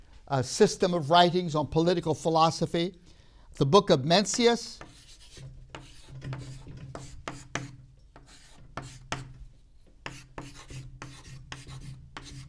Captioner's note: marker scribbles